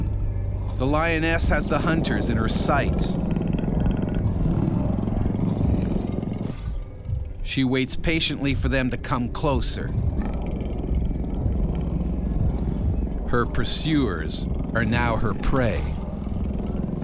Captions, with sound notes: - [Voiceover] The lioness has the hunters in her sights. She waits patiently for them to come closer. Her pursuers are now her prey.